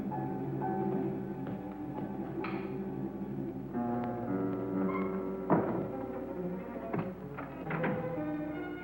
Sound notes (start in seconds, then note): 5.5 door bangs shut